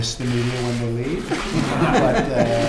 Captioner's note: laughter